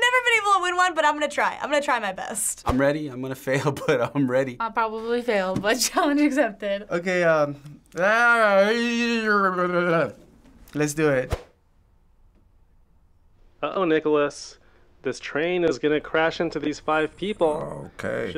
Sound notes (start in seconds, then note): 7.8 groaning